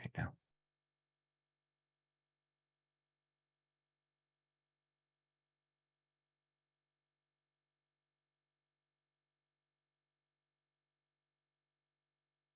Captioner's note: silence